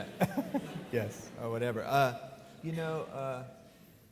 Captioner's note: laughs